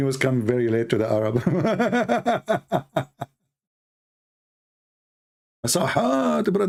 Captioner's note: Ketawa